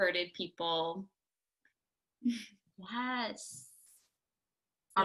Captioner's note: laughter